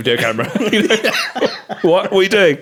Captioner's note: laughing